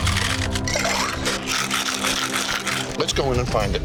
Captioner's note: ice shaking